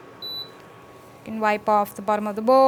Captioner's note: button beeps